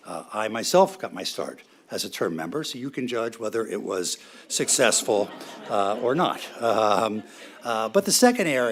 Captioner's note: laughter